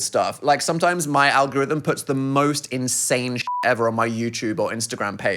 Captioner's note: beep